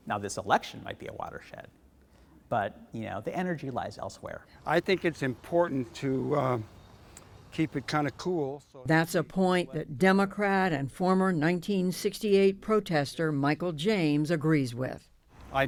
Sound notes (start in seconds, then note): 9.4 voice-over